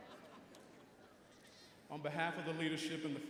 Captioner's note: audience laughing